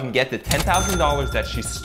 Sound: cash register dings

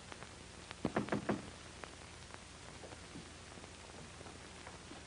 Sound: knocking on door

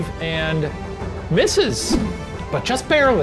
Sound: whooshing

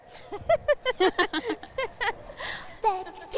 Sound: Bellatrix and Narcissa laughing

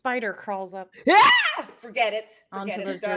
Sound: screams

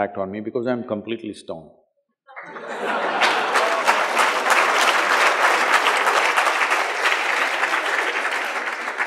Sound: laughter/Applause

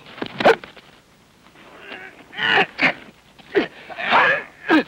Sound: Marshal grunting

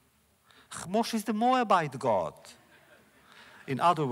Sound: laughter

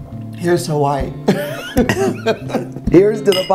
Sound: laughing

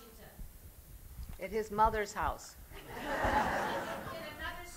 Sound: laughter

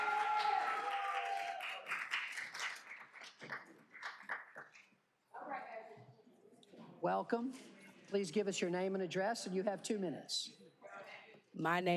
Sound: cheers and applause

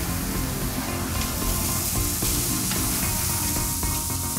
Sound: food sizzling

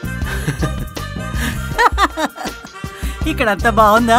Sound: both chuckle

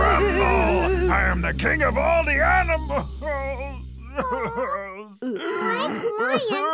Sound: sob

